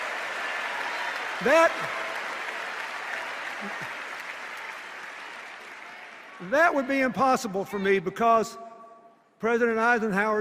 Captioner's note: applause and cheers